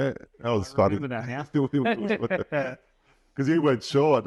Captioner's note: laughing